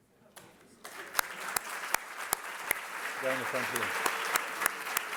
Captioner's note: applause